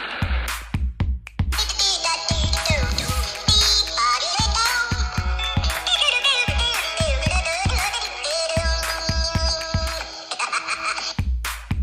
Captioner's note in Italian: Applauso